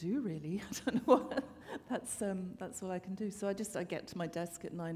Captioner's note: chuckle